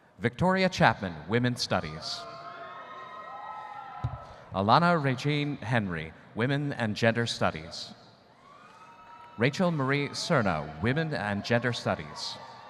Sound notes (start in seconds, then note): 2.2 audience cheering